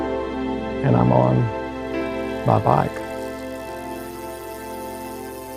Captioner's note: spokes clicking